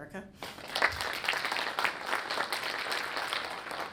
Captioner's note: audience clapping